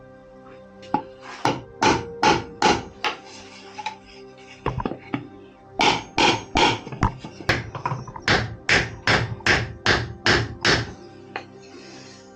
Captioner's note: knocking